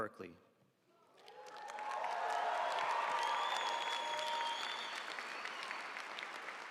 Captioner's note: audience cheering and applauding